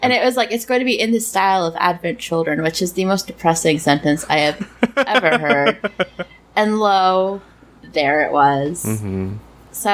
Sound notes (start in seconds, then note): 4.2 laughs